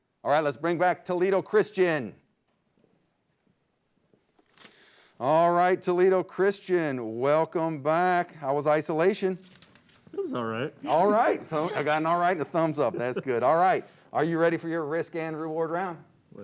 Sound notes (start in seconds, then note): 10.8 contestants chuckling